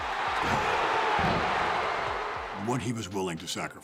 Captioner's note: crowd cheering